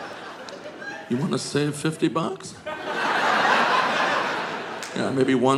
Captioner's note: audience laughing